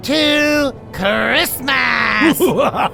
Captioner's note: Arvid laughing